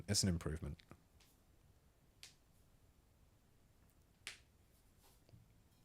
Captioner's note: silence